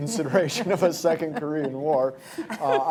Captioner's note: laughter